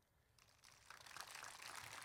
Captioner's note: applause